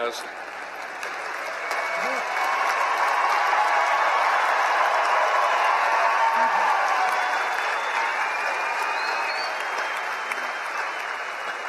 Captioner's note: cheering and Applause